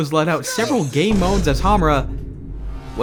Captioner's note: boom